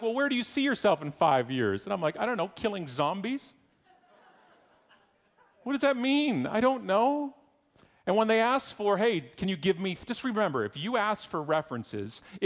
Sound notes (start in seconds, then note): 3.9 audience laughing